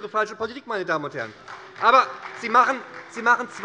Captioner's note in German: Beifall bei der SPD - Zurufe von der CDU